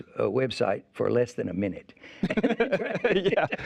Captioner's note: laughing